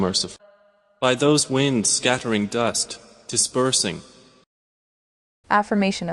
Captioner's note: winds